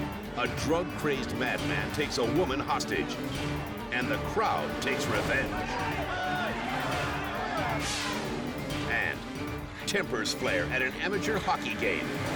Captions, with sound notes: a drug-crazed madman takes a woman hostage, and the crowd takes revenge- (mob clamors) (air whooshes) and tempers flare at an amateur hockey game,